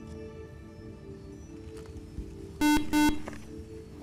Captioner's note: buzzer